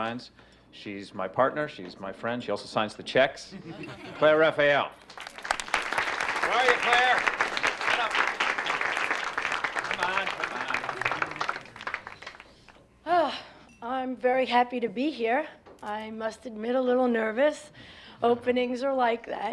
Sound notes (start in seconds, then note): 3.8 audience laughs; 4.4 audience applauding; 11.9 sighs; 13.5 on microphone